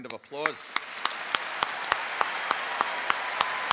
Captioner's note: applause